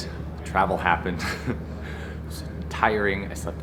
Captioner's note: chuckles